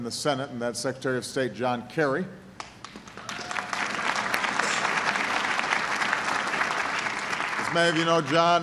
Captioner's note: applause